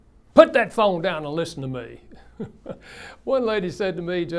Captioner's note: laughs